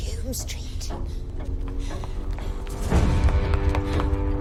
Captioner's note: ticking continues